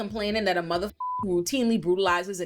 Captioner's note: beep